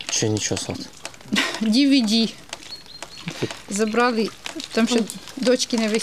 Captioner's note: laughs